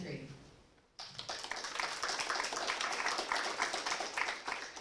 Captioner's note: applause